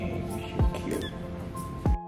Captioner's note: Tofu squeaks meows